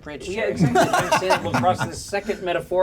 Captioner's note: laughs